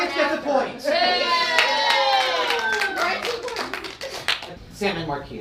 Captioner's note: audience cheering